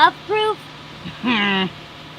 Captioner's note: incredulous snort